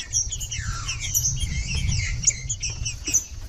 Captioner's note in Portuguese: trinca ferro cantando